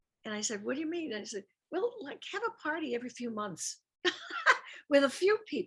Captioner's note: laughs